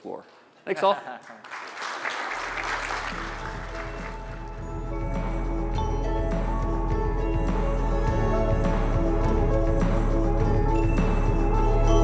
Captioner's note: applause